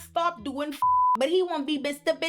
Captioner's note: beep